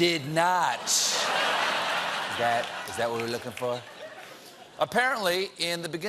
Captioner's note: laughter